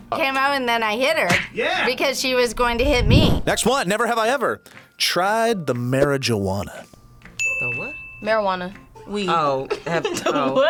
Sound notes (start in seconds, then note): 7.3 bell rings; 9.7 laughs